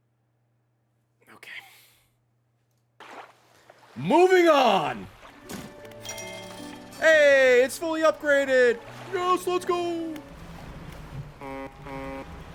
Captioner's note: honks